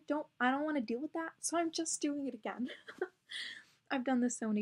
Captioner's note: giggles